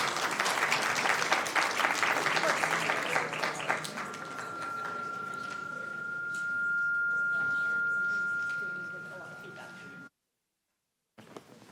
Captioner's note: applause